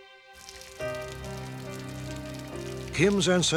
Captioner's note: rain pouring